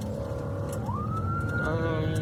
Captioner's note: siren blaring